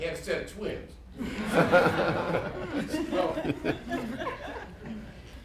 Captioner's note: laughter